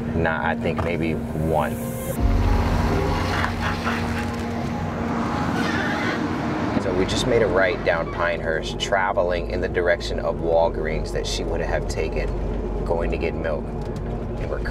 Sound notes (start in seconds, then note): 2.1 RV engine revving; 2.7 bright instrumental music